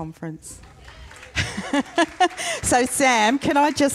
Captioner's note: audience applauds